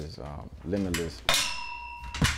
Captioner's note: metal pole chimes